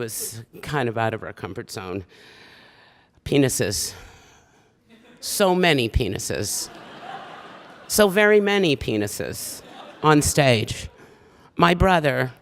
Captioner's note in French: Rires